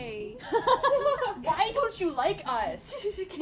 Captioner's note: laughter